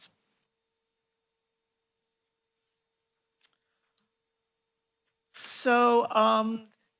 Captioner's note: pause